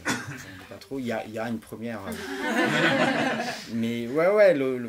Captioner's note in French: rires